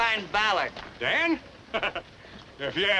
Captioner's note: laughing